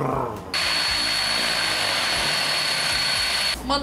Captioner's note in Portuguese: Ruído de hélices